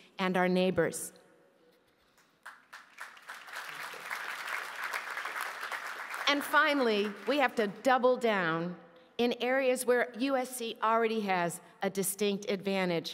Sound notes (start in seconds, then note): 9.8 applause